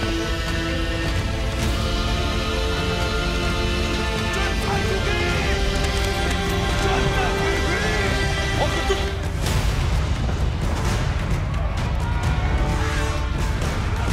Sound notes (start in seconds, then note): 3.5 soldiers yelling